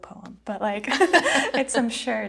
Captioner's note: both laughing